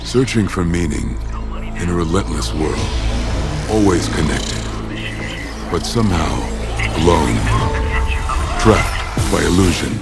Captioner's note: bell rings